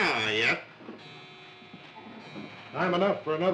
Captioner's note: clock chiming